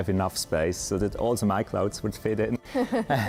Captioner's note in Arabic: يضحك